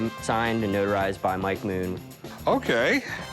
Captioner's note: none